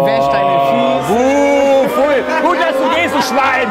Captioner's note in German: Raunen, empörte Laute